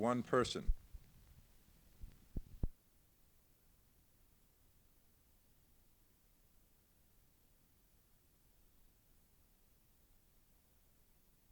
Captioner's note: silence